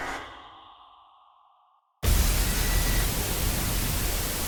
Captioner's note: high-pitched static